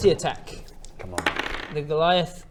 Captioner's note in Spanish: tirada de dados